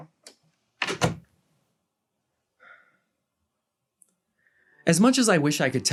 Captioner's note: door slam